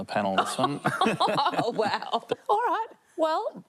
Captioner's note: laughs